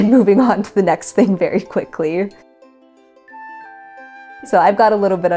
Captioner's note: laughs